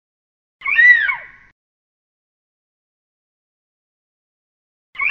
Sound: eagle screeching

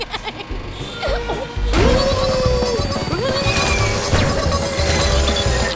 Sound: giggling; whirring, grunting; laughing

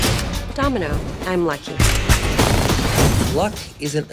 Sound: cocks gun and fires

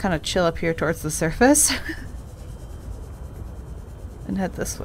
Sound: nervous laugh

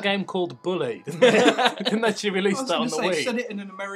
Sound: laughter

